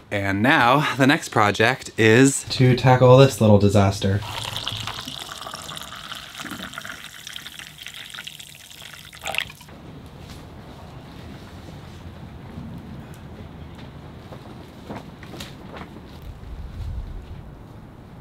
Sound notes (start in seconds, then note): 4.2 coffee pouring; 10.0 wind blowing